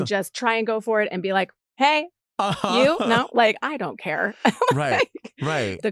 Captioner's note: laughs